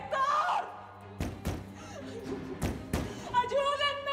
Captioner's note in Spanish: golpes; sollozos